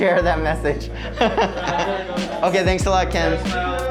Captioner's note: laughing